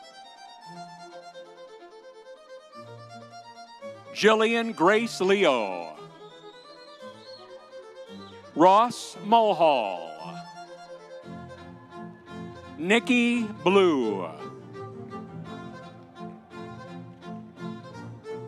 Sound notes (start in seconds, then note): 0.2 audience cheering; 6.1 audience cheering; 10.5 audience applauding; 15.1 audience cheering